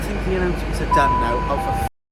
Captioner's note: announcement Sound